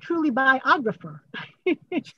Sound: laughs

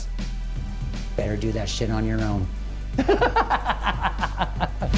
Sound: laughs

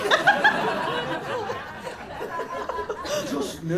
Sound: laughter

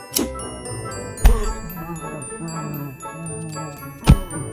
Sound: muffled pain

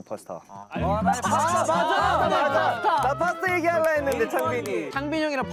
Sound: murmuring

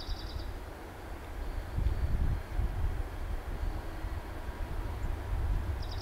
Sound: bird calls, wind

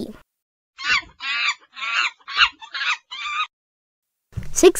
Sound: a monkey screams

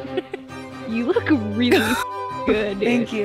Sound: laughs; beep

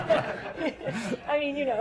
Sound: laughter

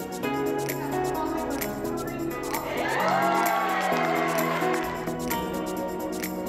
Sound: audience cheering; smooth upbeat music

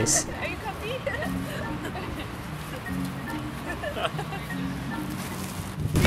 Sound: laughing and speaking Dutch

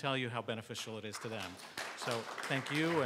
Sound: congregation applauding

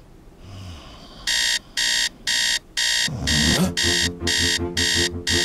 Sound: snoring; alarm clock

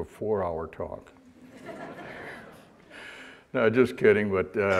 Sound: audience laughter

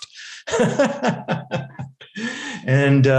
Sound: laughing

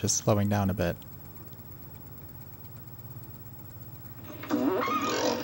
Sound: ticking sounds closer to first example

